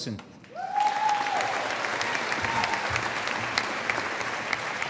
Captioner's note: audience applauding